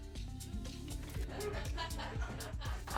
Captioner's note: laughing